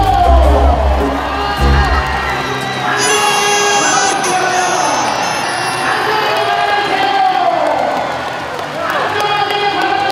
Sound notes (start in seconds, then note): 2.9 just crying itself